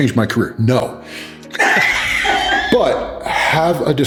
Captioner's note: laughs